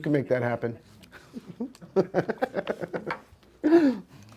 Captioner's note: laughs